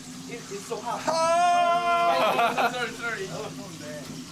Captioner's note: laughter; shouts